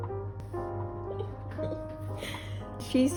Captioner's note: giggles